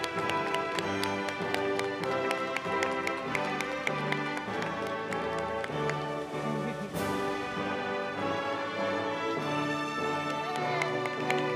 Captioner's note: applause